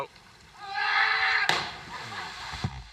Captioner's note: screaming